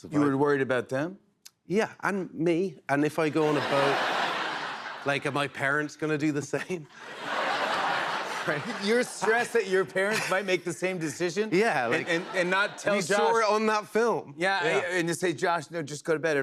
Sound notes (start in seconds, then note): 3.4 laughter; 6.4 laughter